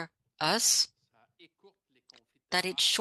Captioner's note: speaking French